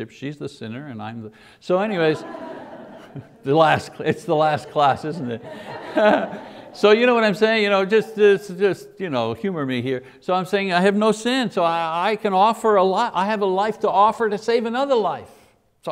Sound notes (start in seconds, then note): 1.8 audience laughs